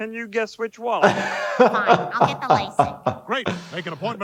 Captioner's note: laughing